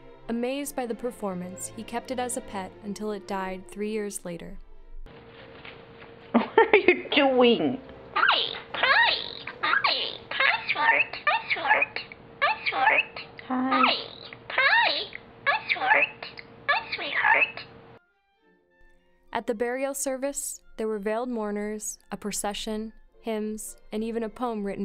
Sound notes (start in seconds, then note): 6.3 woman laughs; 8.1 bird speaks